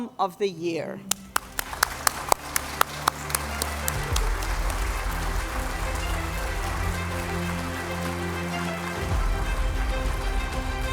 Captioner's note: applause